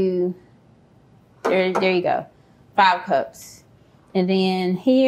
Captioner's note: taps object